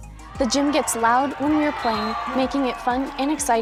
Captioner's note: crowd cheering